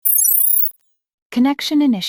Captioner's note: electronic beeping